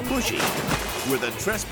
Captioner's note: water splashing